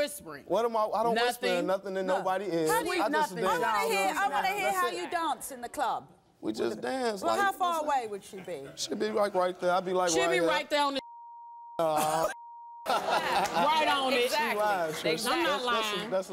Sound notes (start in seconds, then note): 10.9 beeping; 12.8 audience laughing